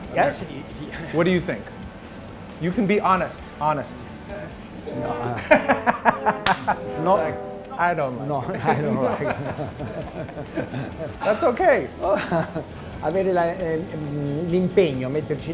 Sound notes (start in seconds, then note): 4.4 laughing; 10.4 both laughing